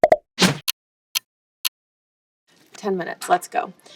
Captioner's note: clock ticking